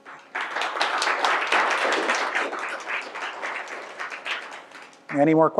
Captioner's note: applause